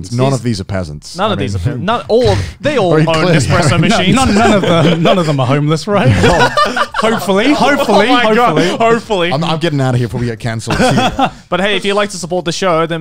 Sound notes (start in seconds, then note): 6.0 laughing